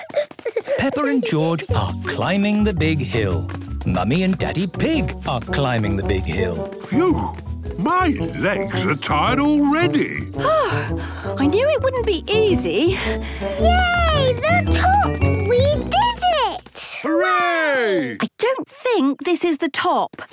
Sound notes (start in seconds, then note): 10.5 panting